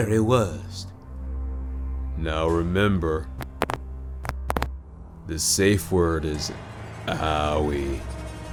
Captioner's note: knuckle crack